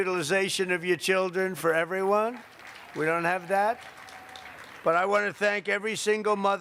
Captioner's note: applause